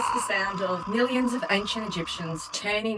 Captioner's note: sounds of screams